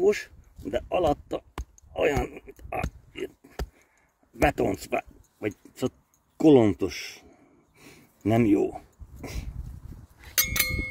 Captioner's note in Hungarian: nyögések